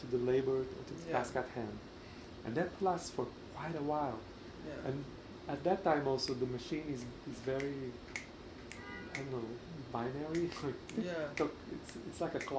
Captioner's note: begins snapping in rhythm